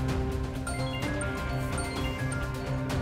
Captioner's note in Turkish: Telefon çalıyor